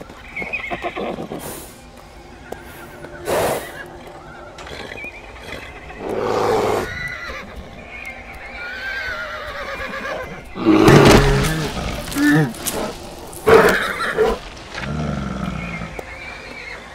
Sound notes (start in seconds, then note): 1.9 heavy breathing; 4.5 bear growls; 10.1 bear growls